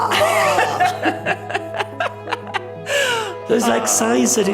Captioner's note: speakers laughing